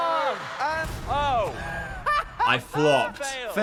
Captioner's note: laughing